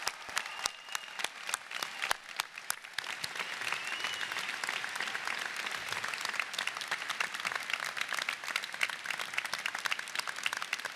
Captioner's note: applause